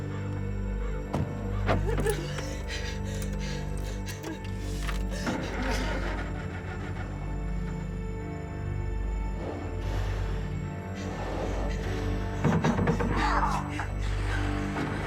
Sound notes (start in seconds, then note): 1.5 Jo crying